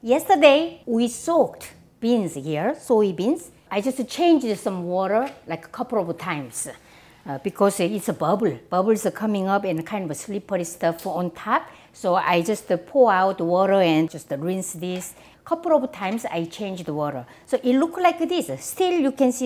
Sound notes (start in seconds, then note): none